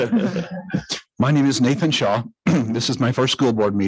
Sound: clears throat

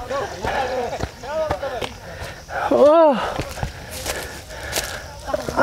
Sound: walking Boots Sound

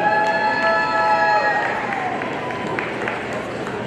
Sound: audience cheering

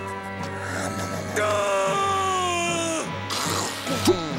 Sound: screams

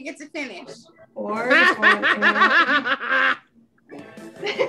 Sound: laughs

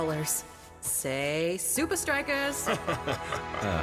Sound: laughing

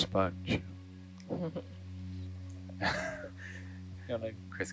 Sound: laughing

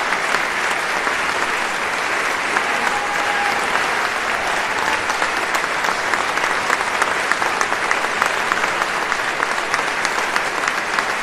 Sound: applause

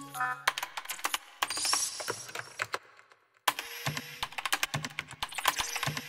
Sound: keyboard keys clicking

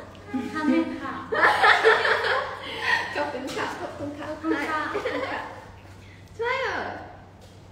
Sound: laughing

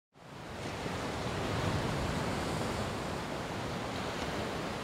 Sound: waves crashing with the noise of traffic

